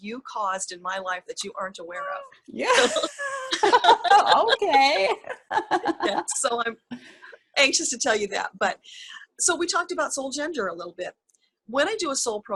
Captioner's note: laugh